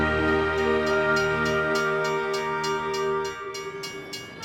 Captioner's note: bell dinging